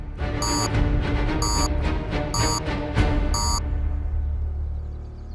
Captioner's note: series of beeps